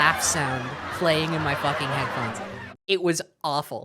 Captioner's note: laughter continues